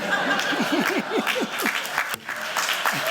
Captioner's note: applause